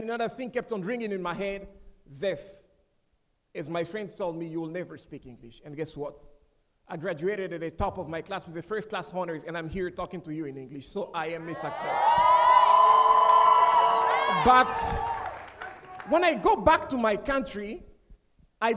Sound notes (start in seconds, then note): 11.4 audience cheering; 11.4 audience applauding